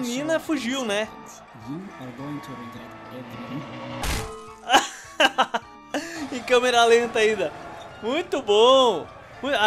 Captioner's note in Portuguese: Risos